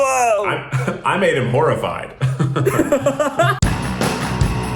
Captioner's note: Zach laughs; upbeat music